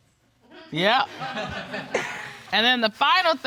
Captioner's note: audience chuckles